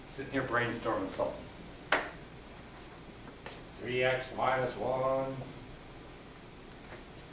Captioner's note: none